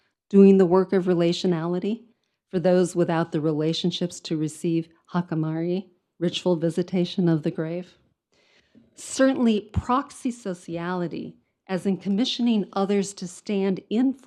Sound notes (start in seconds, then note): 4.7 speaks in foreign language